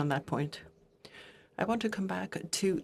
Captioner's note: speaking in French